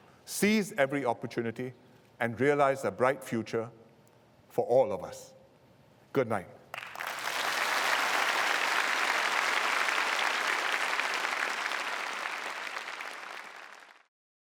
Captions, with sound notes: seize every opportunity and realise a bright future for all of us. Good night! [Applause]